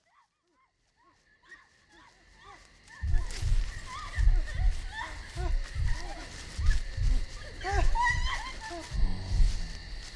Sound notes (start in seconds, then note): 0.9 frantic cries; 3.0 heart beating; 5.0 running footsteps